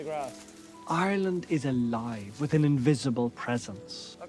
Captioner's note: voice-over